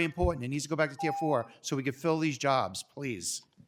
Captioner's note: timer tone